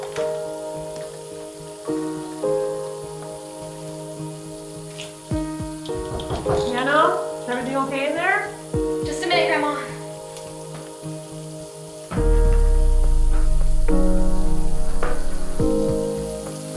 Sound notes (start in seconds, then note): 5.9 knock on door